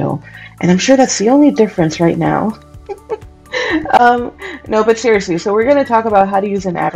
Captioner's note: giggles